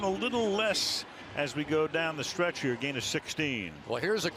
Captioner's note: none